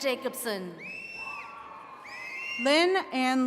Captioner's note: attendees cheering